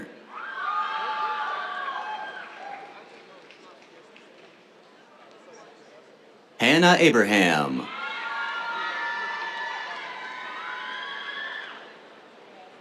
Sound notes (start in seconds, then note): 0.0 cheers; 7.8 cheers